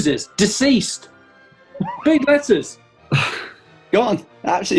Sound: chuckling

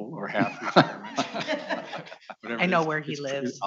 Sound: audience applauding

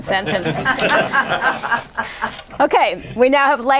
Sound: laughter

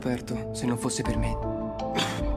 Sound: cough

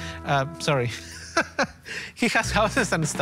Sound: laughs

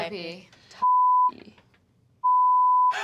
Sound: beep

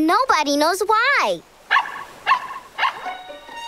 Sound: barking

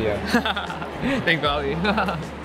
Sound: laughing

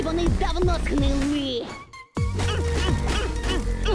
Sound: grunting

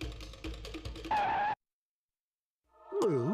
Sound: skidding; gulps

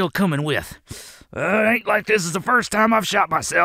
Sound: grunting in pain

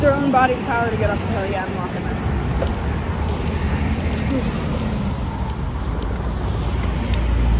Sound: heavy breathing

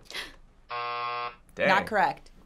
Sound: gasps; buzzer

